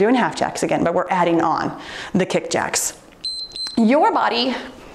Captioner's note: timer beeps